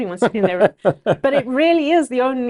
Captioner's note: laughing